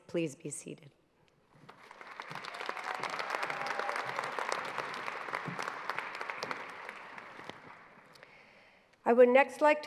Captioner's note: applause